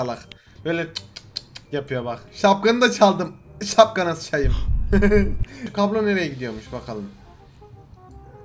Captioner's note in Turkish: Gülme Sesi